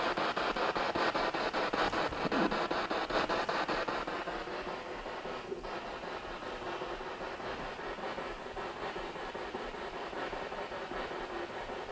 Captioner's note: noise of the spiritbox in the background